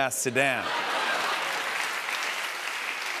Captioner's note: laughter and applause